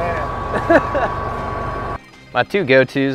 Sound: laughs

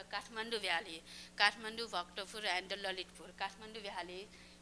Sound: non-english speech

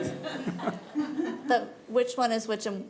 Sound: committee chuckling

